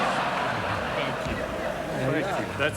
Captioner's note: audience laughs